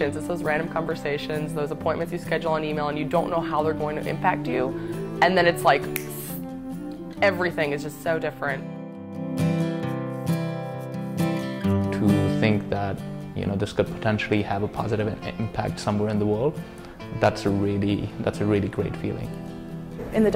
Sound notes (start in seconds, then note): 5.8 finger-snap